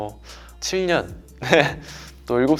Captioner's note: haha